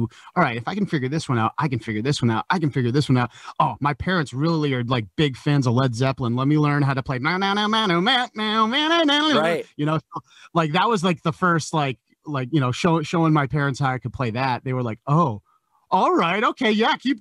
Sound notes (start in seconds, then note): 7.4 making guitar noises